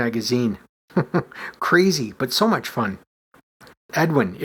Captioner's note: chuckles